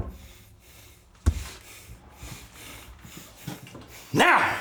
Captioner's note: Donovan huffing